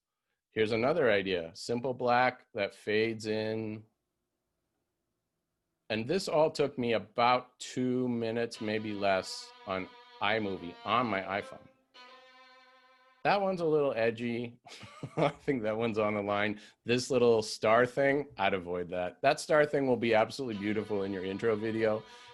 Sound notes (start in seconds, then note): 14.6 laughter